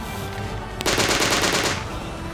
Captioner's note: gunfire rattling